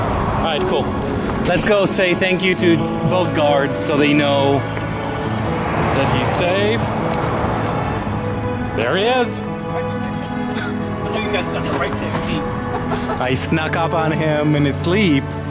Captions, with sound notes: Alright cool. Let's go say thank you to both guards. So they know that he's safe. There he is. You guys got the right technique. [Laughter] I snuck up on him in his sleep.